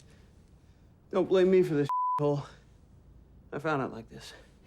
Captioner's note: beep